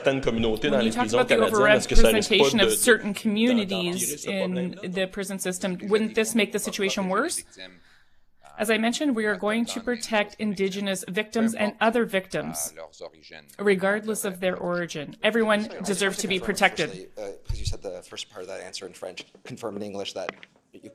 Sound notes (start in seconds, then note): 12.7 speaking French